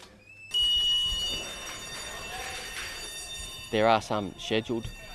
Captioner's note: alarm bell ringing